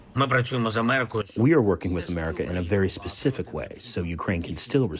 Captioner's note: through translator